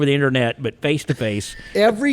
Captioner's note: chuckling